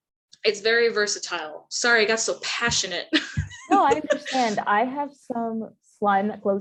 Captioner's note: laughs